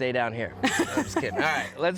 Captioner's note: laughs